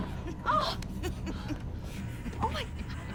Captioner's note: woman laughs